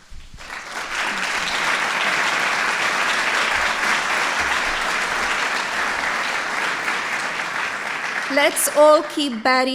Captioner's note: applause